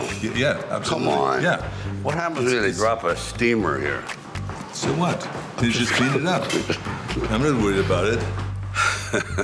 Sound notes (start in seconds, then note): 6.4 Sylvester laughing